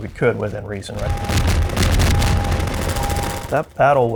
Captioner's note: loud gunfire